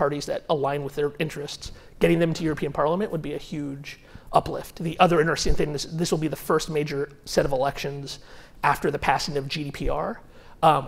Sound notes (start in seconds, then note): none